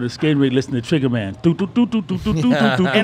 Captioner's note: imitates tune; laughing